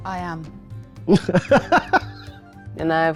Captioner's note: laughing